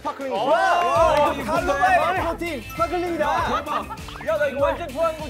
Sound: enunciates

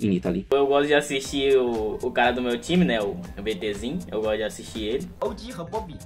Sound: speaking in foreign language

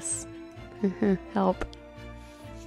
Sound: nervous laugh; adventure music

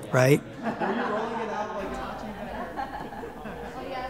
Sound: people chattering

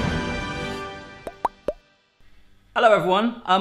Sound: upbeat music; soft popping

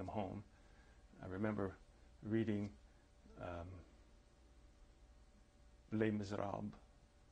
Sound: pauses for 3 seconds

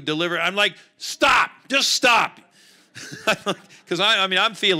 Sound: laughing

